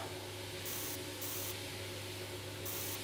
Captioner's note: machine whirring